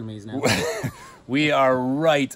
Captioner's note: laughter